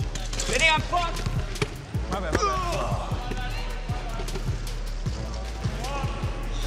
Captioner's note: grunting